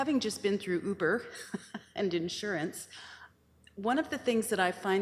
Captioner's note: chuckles